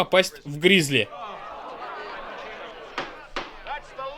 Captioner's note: crowd groaning